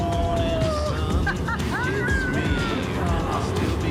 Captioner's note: laughing